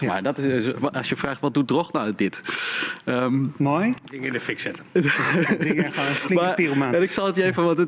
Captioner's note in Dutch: lachen